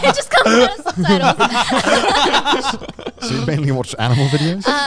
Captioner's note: all laughing